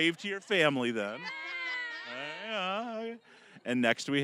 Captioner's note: both laughing